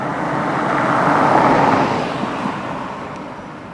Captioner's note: car driving